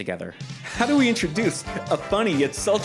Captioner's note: ironic giddiness